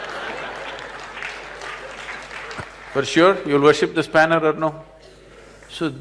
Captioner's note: laughter/Applause